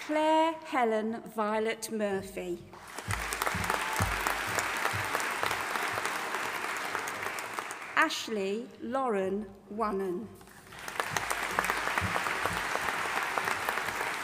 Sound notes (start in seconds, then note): 2.8 audience applauding; 10.6 audience applauding